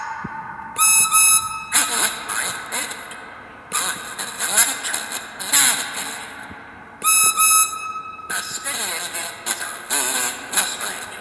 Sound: whistle blows

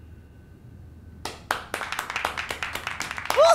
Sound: clapping

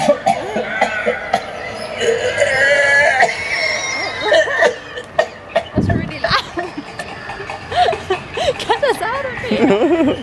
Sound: statue coughing

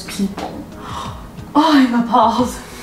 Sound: gasp

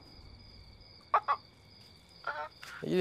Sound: crying

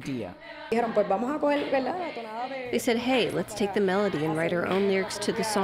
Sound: through translator

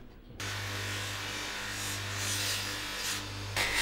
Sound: drilling

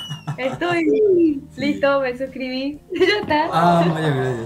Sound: Spanish

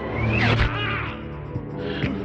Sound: Saruman screaming; synthpop

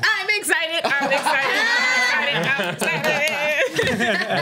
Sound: laughs

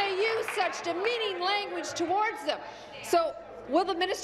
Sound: applause

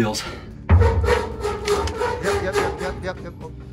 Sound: scraping of metal

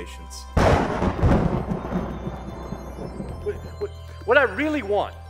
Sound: thunder

